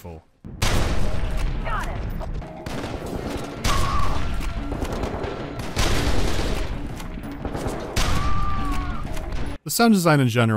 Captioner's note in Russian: мощные выстрелы из винтовки